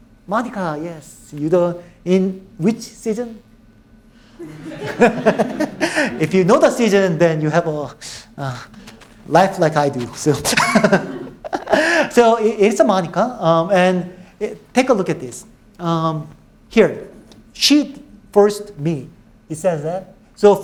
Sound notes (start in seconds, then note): 4.4 all laughing; 10.7 laughing